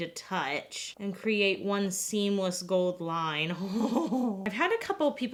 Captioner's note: laughs